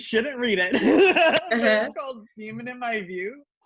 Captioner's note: laughs